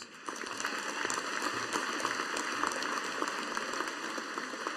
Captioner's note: audience applauding